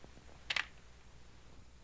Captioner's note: cocks gun